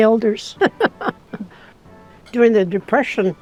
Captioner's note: laughing